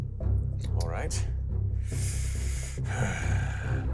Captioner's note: sighs